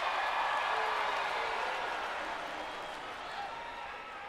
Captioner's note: crowd cheering